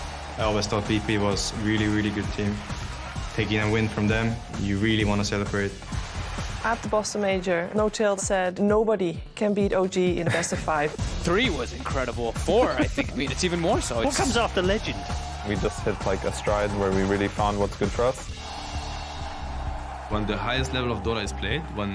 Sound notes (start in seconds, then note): 18.8 crowd cheering